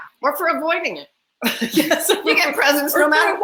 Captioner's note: laugh